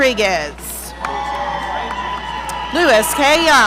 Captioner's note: audience cheering